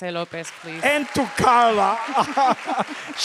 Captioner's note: crowd cheers; laughing